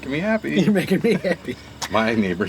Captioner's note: laughs